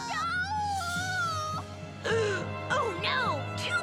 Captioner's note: dramatic music; gasps